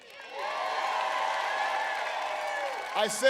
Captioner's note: applause